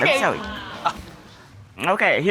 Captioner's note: audience gasps